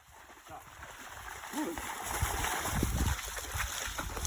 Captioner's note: water splashing